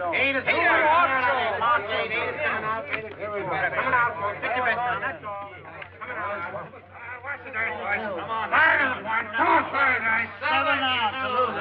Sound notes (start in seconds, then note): 6.0 men shouting